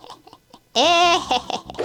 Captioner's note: maniacal laughter